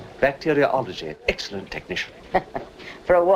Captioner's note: chuckles